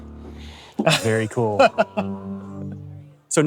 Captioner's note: laughs